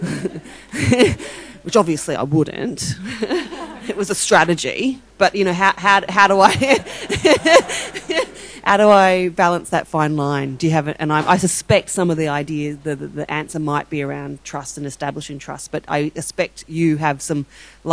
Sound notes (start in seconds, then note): 0.0 audience laughing; 6.5 laughing